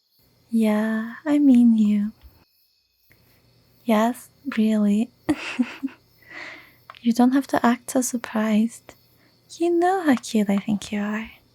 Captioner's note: chuckle